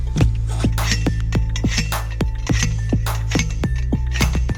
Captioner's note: metal clanking